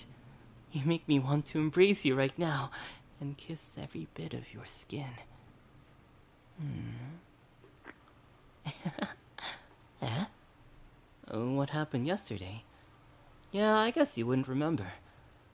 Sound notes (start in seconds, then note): 7.7 kiss; 8.6 laugh